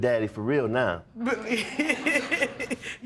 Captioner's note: laughing